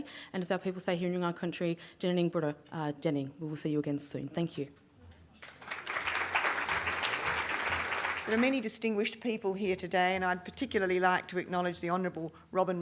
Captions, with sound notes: and as our people say here in Nyungar country, [Speaking Foreign Language], we will see you again soon. Thank you. [ Audience Applause] >> There are many distinguished people here today and I would particularly like to acknowledge the honourable Robyn